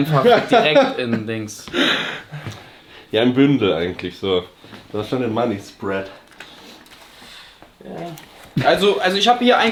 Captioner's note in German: gelächter; schnauben